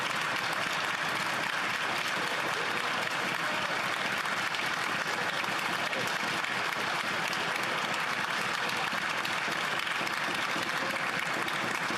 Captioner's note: applause